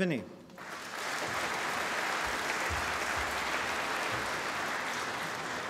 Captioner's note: applause